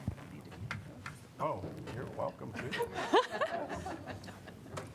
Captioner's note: laughter